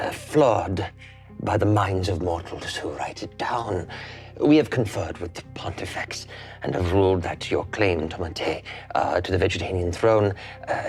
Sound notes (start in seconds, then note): none